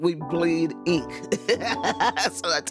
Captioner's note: laughing